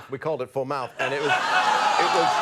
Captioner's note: audience exclaims